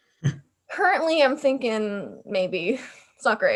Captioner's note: laughs